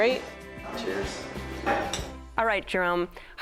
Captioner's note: glasses clink